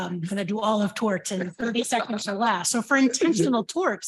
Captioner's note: laughs